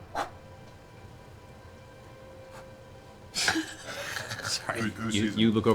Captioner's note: puffs air